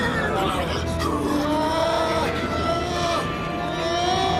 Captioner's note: bellowing